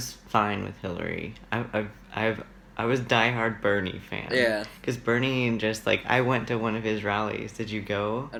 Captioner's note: laughs